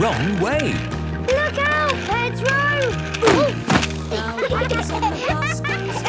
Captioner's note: laughter